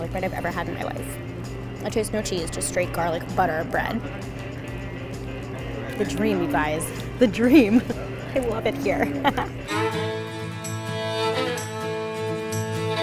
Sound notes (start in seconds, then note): 6.9 laughing; 9.7 mellow country music